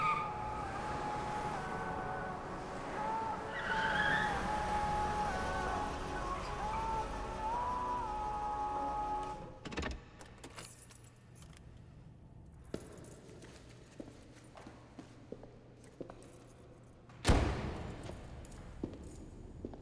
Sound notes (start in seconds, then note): 0.0 car ties screeching; 0.1 car radio music; 9.9 car door clicks; 10.2 keys jangling; 17.3 car door thuds